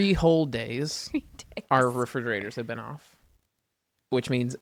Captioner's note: laughs